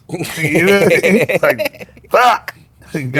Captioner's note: laughing